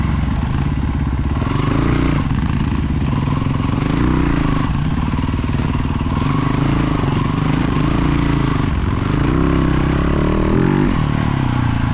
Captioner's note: engine revving